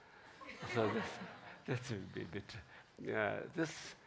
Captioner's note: laughing